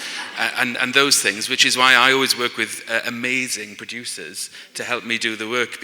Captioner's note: laughter